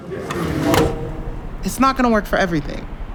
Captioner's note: fan humming